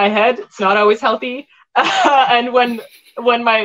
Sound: chuckles

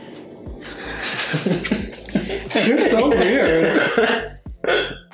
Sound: laughing

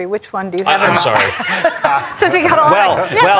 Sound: laughter

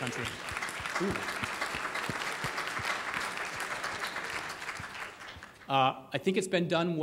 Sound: audience applauding

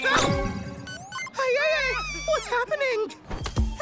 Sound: shrieks

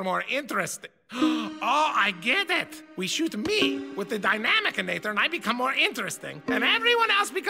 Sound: gasp

